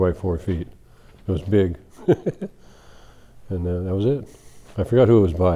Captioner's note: laughs